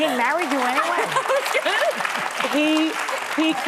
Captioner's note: audience applauds